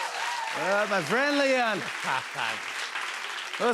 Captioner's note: cheers and applause; as Trump; normal voice